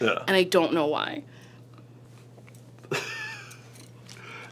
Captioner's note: laughs